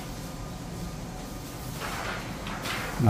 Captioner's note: PET film noise